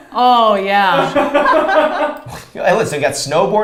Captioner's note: both laughs